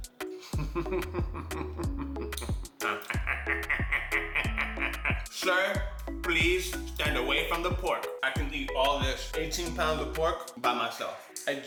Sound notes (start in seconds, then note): 0.4 laughing; 2.6 laughing like a madman